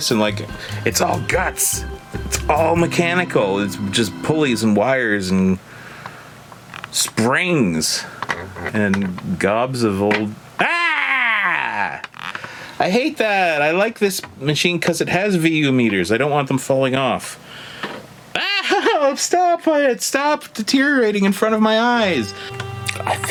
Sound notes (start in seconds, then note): 10.6 narrator screams; 18.4 narrator chuckling